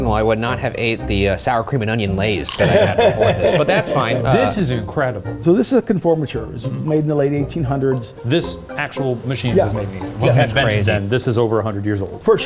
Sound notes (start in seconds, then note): 2.4 chip crunching; 2.5 laughing